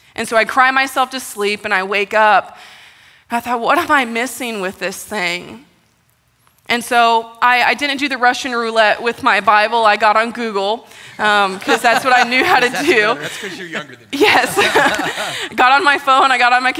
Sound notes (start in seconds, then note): 11.2 laughter